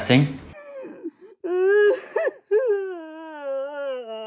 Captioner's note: sobbing